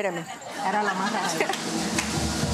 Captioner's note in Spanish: Risas